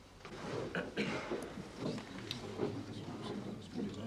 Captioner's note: Para penonton bergumam